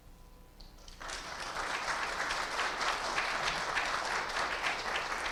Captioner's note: audience applauding